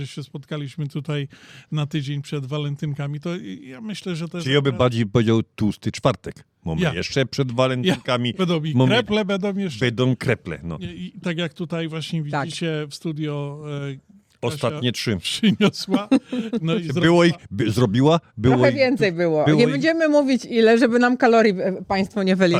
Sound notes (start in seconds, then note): 15.4 śmiech